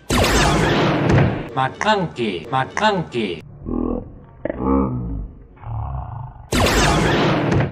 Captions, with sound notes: (gun zaps) Maclunkey, Maclunkey. Maclunkey. (gun zaps)